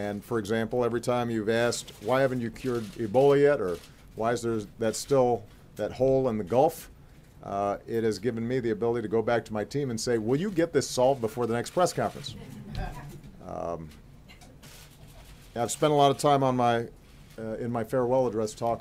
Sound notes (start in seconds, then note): 12.4 laughter